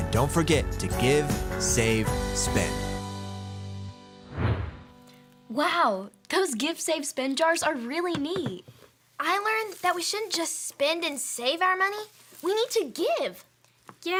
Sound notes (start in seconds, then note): 3.4 upbeat music fading; 4.2 whooshing